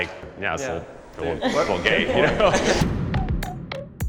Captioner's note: participants laugh; catchy music